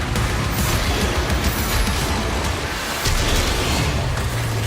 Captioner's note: roaring